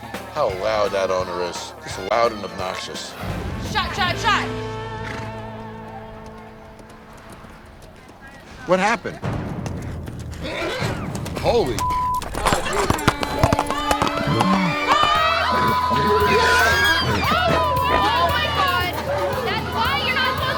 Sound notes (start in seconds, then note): 10.4 horse whinnying; 13.5 horse footsteps; 15.5 horse whinnying